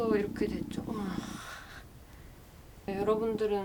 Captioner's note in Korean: 한숨